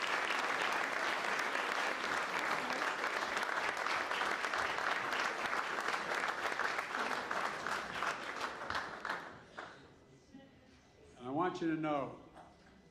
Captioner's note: applause